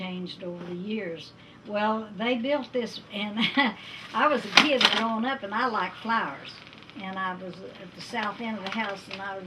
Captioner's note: laughs